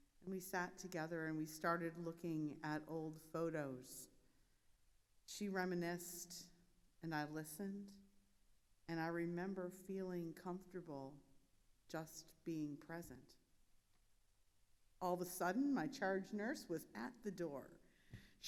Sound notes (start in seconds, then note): none